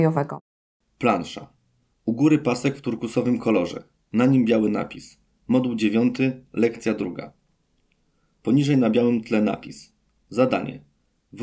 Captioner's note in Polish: Głos męski z offu, audiodeskrypcja planszy